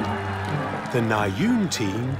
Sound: cheering, applause

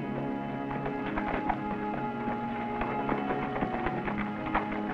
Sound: horses galloping

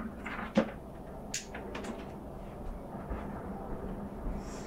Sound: lamp clicks off

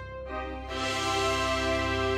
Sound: none

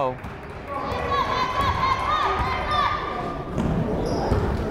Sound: fan shouting

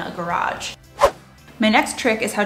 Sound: air whooshing

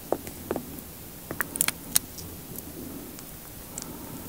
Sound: the sound of honey dripping

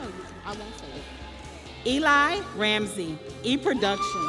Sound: crowd cheering

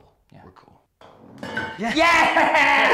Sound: stainless steel cup clanks

